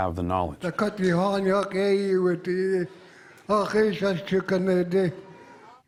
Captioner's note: speaking in Lingít